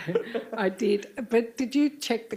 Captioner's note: chuckle